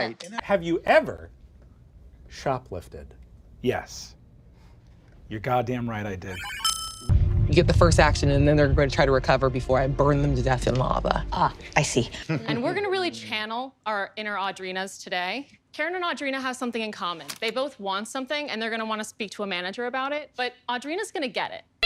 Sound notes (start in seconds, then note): 6.4 lie detector dings